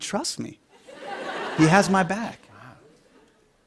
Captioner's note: laughter